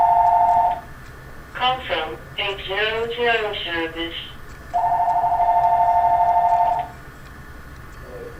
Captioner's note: phone ringing; answering machine in background